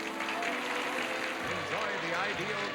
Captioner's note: audience applauding